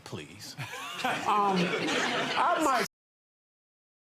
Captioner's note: audience laughs